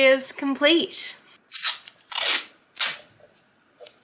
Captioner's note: sticky tape tears